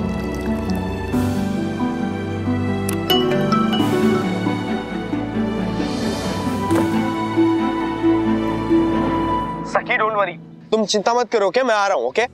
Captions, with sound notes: [tense music playing] [phone rings] Sakhi, don't worry. I am coming. Okay.